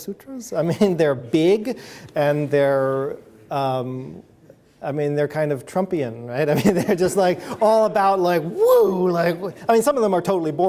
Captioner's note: chuckles